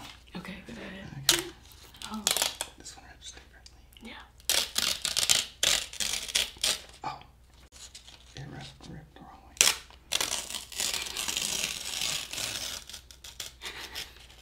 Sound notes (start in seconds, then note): 1.2 tearing paper; 10.5 laughing